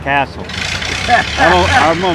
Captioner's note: interviewer laughs